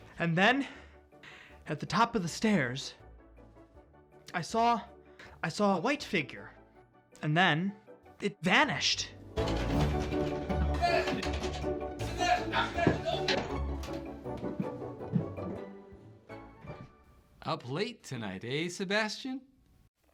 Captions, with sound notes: And then at the top of the stairs, I saw, I saw a white figure, and then it vanished. [door knob rattling] Sebastian! Sebastian! Open up! Up late tonight, eh, Sebastian?